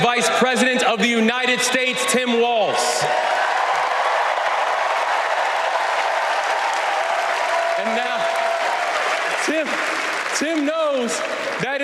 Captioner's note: crowd chanting